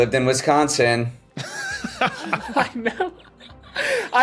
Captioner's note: laugh